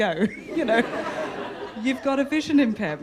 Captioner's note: audience laughter